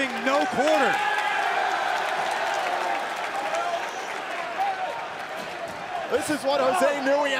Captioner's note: crowd cheering